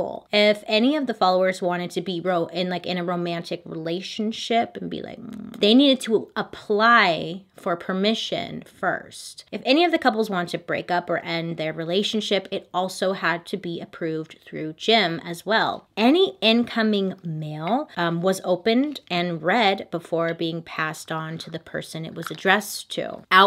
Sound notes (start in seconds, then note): 5.2 kissing noises